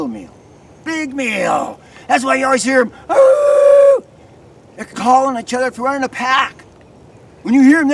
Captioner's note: howl